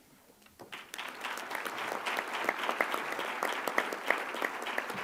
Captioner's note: applause